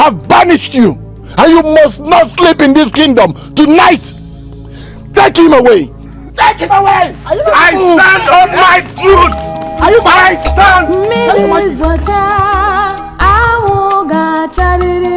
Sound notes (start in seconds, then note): 9.1 screaming